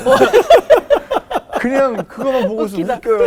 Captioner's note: laughing